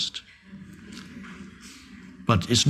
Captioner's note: audience chuckling